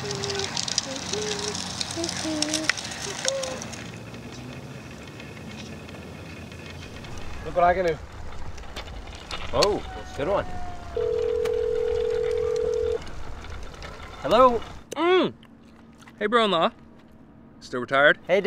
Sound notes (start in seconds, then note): 0.0 hums; 10.9 phone rings